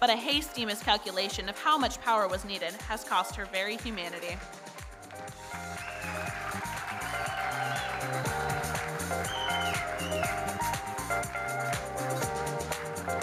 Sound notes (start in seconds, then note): 5.2 audience cheering and applauding